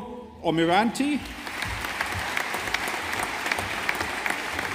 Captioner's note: audience applauding